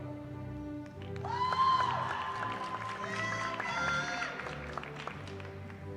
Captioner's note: cheering